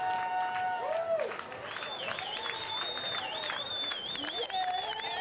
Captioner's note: audience cheering